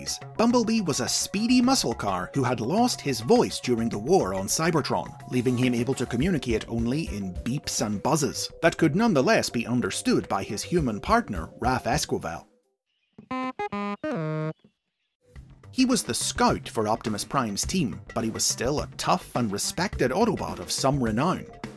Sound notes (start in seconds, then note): 13.2 beeping